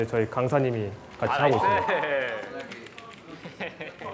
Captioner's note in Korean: 학생들이 웃고 떠드는 소리